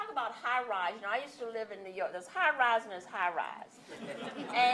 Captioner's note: laughter